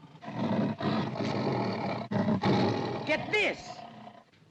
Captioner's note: tiger growls & snarls